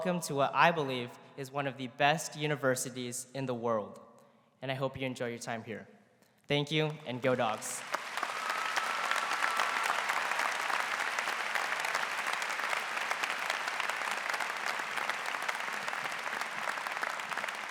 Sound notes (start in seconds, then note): 10.6 �cheers and applause�